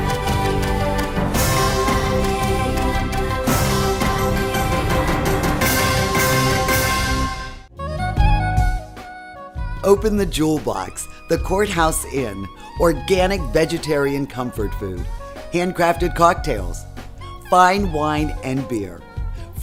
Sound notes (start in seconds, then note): 8.3 horns playing; 10.3 voiceover